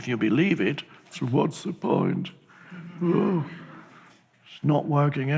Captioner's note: audience laughs